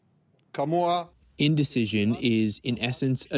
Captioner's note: through translator